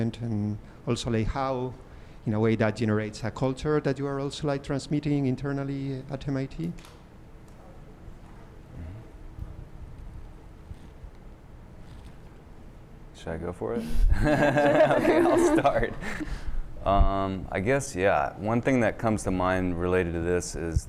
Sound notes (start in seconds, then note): 14.0 laughter